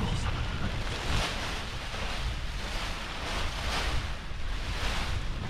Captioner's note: paraglider crinkling